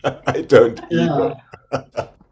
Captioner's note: laughs